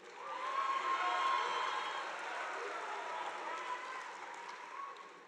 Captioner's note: audience applauding